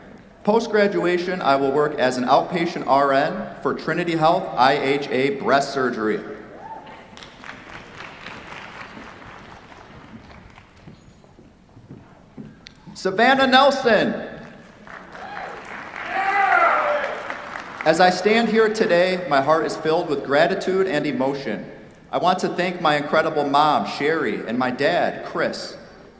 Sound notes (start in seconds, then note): 7.0 applause; 14.7 cheers, applause